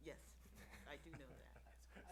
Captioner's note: laughs